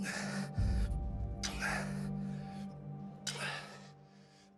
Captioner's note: breathing heavily